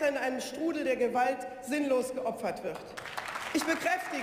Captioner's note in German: Beifall